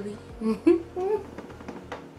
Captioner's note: laughs lightly